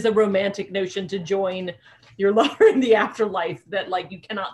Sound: laughing

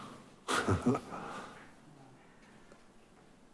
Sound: laughing

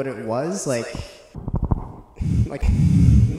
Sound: rubbing noise; bbrreeaatthhiinngg; breathing

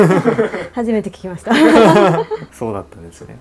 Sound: laughter

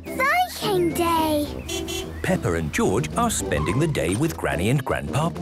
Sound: beeping

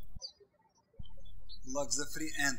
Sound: birds chirping

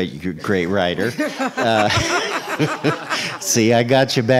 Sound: laughing

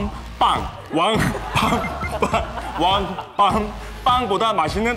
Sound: laughing at himself

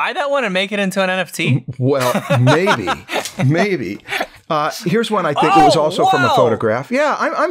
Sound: laughter

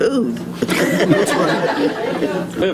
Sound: laughter

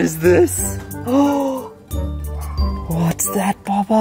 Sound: gasps

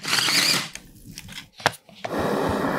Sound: blender whirring; prunes rattling; citrus slices tapping; torch whooshing

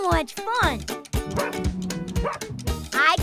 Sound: barking

